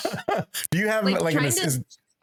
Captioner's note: laughing